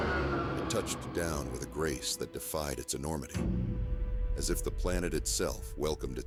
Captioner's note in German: Raumschiff fliegt vorbei